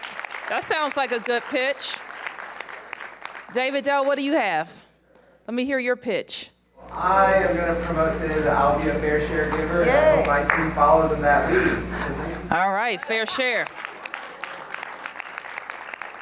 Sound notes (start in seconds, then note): 2.5 applause